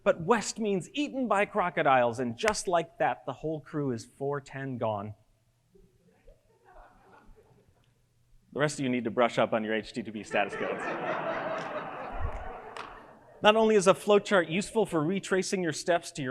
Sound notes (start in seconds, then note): 10.2 audience laughs